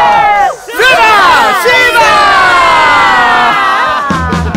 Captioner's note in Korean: 함성